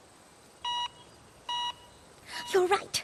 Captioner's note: beeps